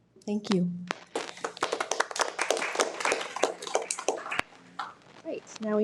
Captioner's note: participants applauding